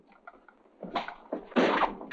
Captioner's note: door slam